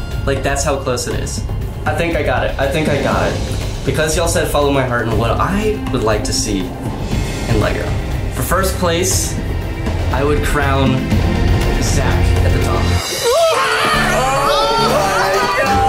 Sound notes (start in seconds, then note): 13.3 yelling; 13.4 celebratory music